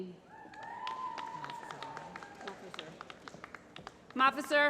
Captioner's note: applause